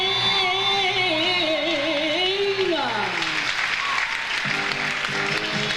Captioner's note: audience applauds; audience cheers; upbeat music; audience applauds